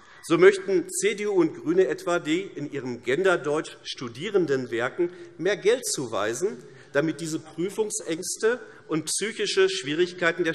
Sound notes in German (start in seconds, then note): none